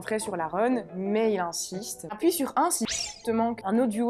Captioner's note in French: bip